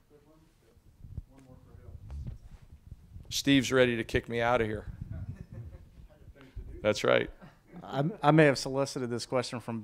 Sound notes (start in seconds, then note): 5.1 reporters laughing